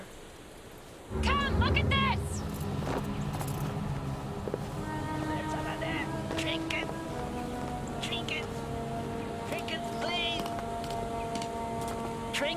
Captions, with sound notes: They might hear. (water running) - Come, look at this! (serene orchestral music) - Trinkets. Trinkets. (tapping) Trinkets, please.